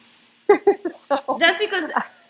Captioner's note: laughs